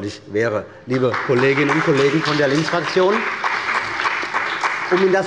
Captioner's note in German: Beifall bei Abgeordneten der CDU und bei dem BÜNDNIS 90/DIE GRÜNEN